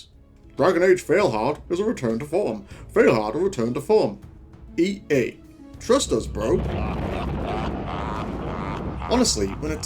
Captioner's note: laughing